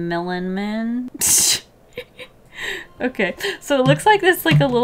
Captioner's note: laughs